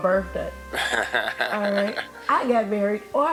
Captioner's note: laughs